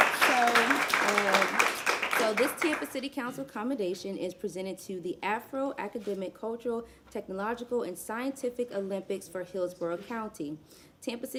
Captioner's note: applause